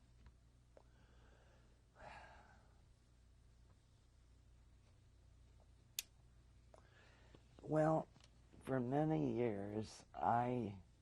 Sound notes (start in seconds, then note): 2.0 sighs